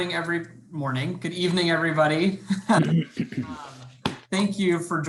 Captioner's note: laughing